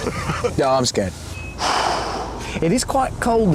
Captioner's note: jeremy sighs